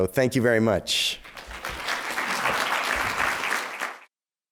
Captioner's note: applause